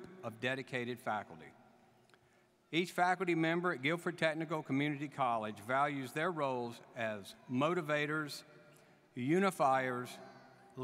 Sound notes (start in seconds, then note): none